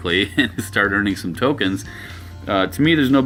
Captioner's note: chuckles